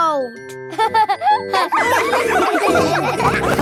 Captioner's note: all laughing